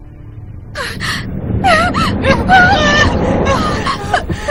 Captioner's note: both whimpering